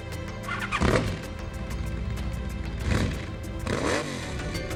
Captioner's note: motorcycle roaring